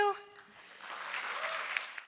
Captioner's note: audience claps